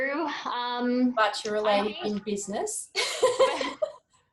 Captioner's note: laughs